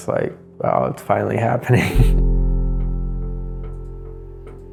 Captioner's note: laughs